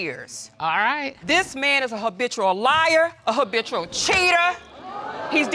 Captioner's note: audience exclaim